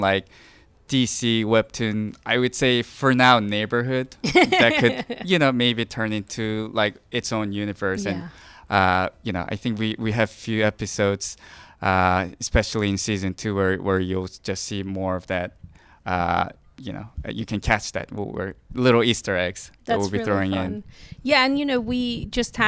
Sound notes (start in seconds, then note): 4.2 laughing